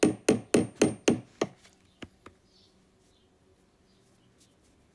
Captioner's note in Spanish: martillo golpeando clavo